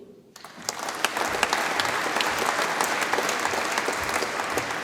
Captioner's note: audience applauds